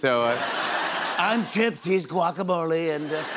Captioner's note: As Trump